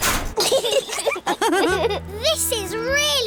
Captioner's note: laughter